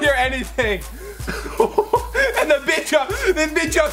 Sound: laughs

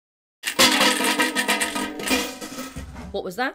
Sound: tin container shaking

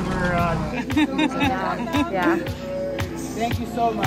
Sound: volunteer laughing

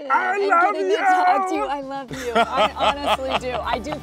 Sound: Sterling laughs

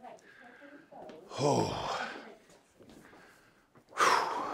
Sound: Tom sighs

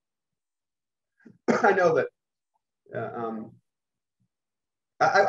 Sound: coughs

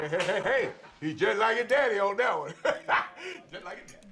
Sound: laughing

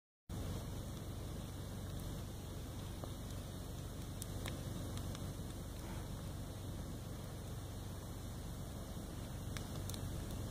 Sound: fire crackles

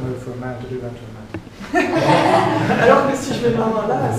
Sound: laughter

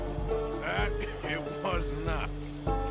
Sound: chuckles

